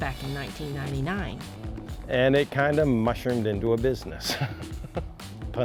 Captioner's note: laughs